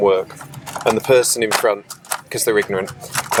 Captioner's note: fold-out tray clicks